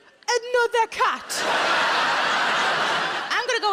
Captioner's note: audience laughing